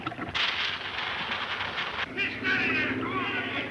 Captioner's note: fuse fizzing